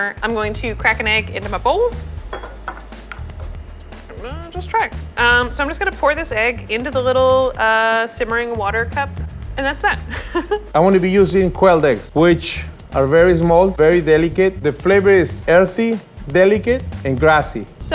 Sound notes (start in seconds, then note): 2.2 egg cracking; 9.9 laughing